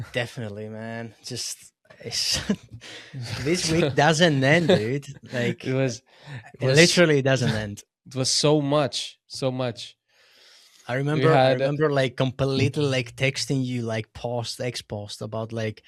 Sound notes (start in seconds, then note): 2.0 laughs